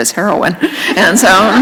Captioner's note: laughter